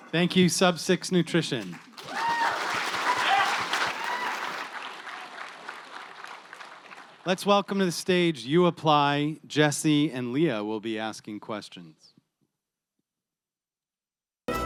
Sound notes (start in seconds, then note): 1.4 applause